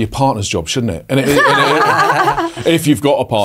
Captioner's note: hosts laugh